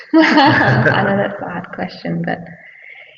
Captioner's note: all laughing